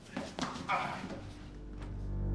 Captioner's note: grunts